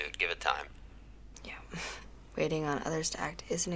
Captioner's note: scoffs